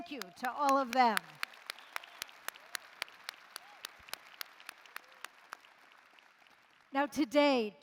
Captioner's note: applause